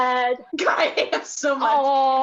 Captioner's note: laughs